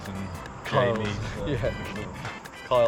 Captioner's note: chuckling